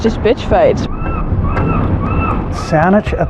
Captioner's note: seaeagugull s sququawki